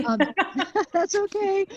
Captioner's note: laughter